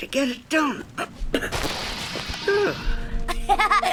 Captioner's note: grunting and groaning